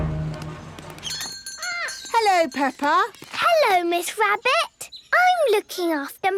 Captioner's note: bell jingling